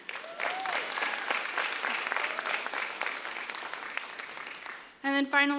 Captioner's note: applause